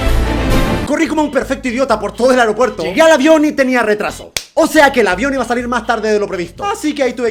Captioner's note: smack